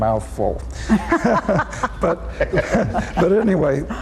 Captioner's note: all laughing